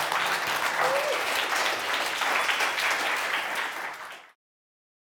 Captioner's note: audience applauding